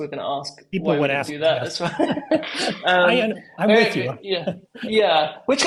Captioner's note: laugh